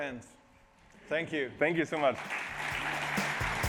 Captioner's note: applause